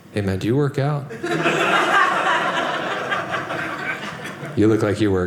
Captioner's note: audience laughing